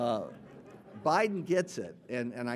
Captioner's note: audience laughing